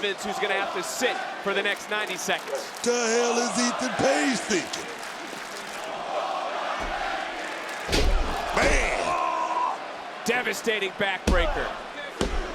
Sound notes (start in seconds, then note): 2.4 crowd cheers; 7.8 page thuds; 9.2 groans